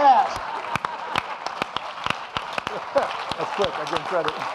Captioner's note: audience applauding